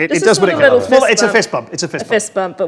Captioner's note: overlapping chattering